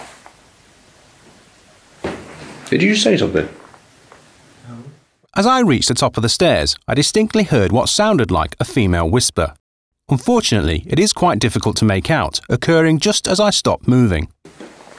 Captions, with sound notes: Did you say something? No *Voice over* "As I reached the top of the stairs I distinctly heard what sounded like a female whisper Unfortunately it is quite difficult to make out occurring just as I stopped moving"